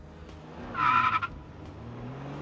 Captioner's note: car tires screeching